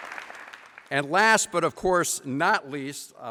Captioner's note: applause